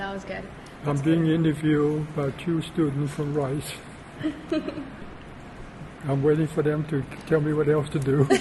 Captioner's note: laughter; laughter